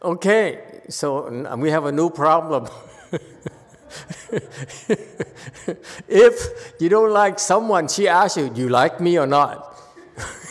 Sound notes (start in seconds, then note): 2.6 laughs